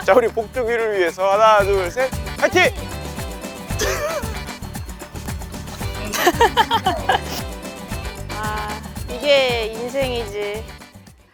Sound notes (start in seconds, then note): 3.8 laughter